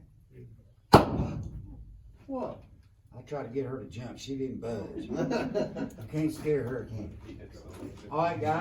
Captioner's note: popping sound! it ignites; laughing